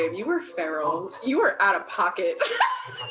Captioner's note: laughs